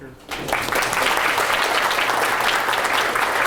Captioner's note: applause